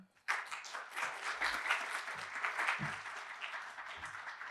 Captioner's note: applause